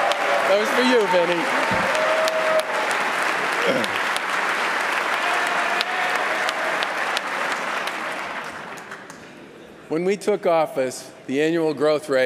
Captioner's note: applause